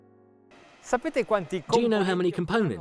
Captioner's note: speaks Italian